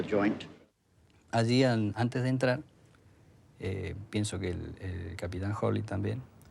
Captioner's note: man speaking in foreign language